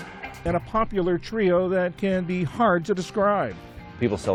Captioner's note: voice-over